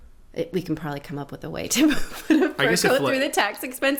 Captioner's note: laughing